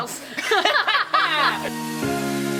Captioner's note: laughs; energetic music